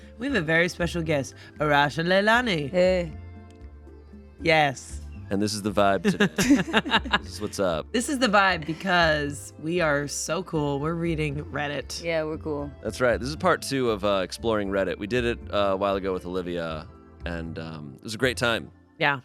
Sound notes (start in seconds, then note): 6.1 everyone laughs